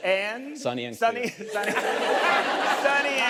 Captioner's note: laughs